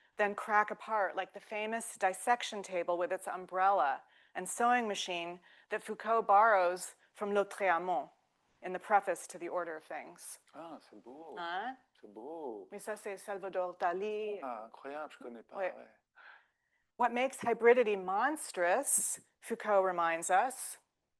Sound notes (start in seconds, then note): 7.5 speaking French; 10.6 speaking French